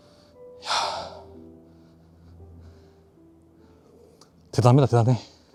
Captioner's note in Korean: 깊은 한숨